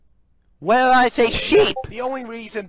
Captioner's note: Discord ping